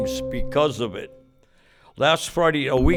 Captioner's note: bell dinging